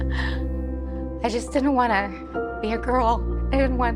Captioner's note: voice trembles